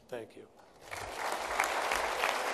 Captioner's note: applause